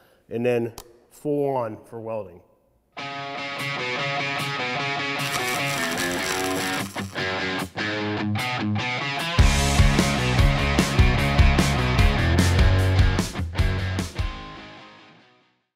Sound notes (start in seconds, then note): 2.9 sparks fizzling; 2.9 upbeat rock music